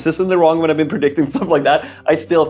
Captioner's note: laughing